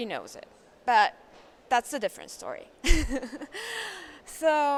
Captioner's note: laughs